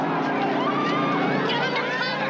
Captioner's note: screaming